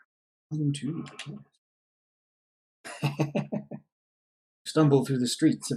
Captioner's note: chuckles